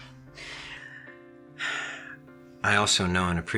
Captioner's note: sighs